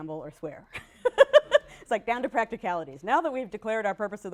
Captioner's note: laughs